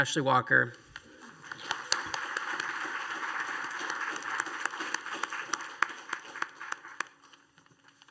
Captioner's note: applause